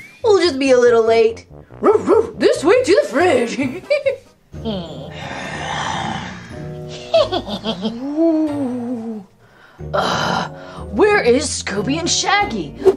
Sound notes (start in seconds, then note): 3.2 laughs; 4.6 ghosts groaning; 4.7 creepy music